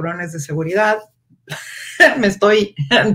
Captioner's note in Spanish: ríe